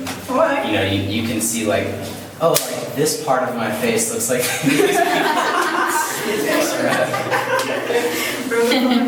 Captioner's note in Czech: smích